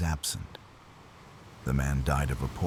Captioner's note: wind Blowing